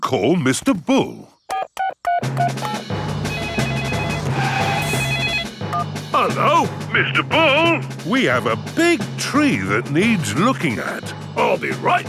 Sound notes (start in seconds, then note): 3.2 phone ringing; 3.2 beeping